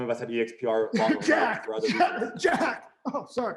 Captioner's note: coughs